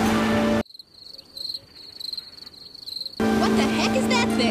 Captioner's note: crickets chirping